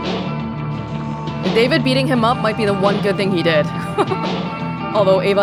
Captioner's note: chuckles